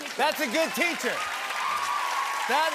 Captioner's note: cheers and applause